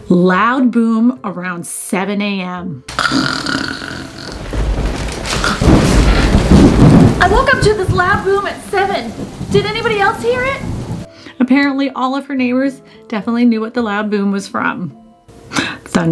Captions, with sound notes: "Loud boom around 7:00 a.m. (loud snoring) (thunder booming) "I woke up to this loud boom at seven. "Did anybody else hear it?" Apparently all of her neighbors definitely knew what the loud boom was from.